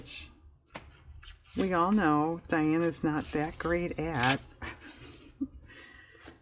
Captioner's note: laughs